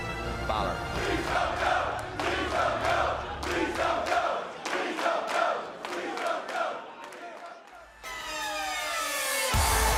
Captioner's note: fans chanting